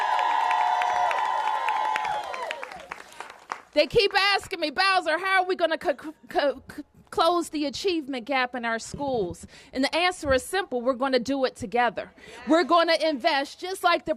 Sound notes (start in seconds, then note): 0.0 applause